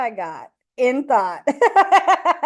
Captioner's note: laughs